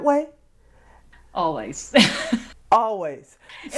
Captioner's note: laughing